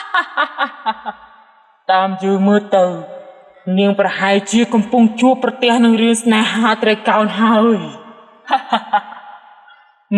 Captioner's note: laugh from the cave; laughing